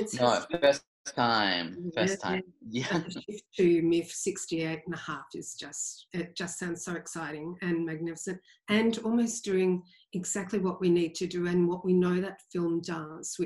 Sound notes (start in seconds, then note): 2.7 laughs